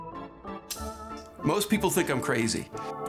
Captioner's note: scissors snip